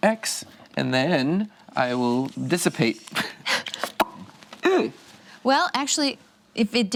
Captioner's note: pops lips